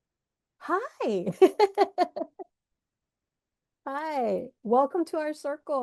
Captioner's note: laughs